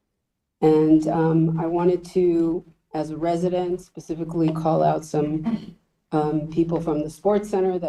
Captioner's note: clears throat